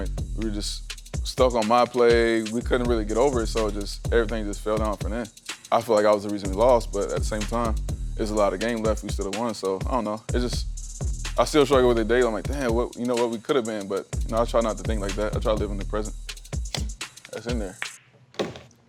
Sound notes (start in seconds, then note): 16.7 pool stick connecting with ball, balls colliding